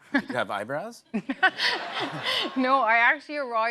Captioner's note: laughs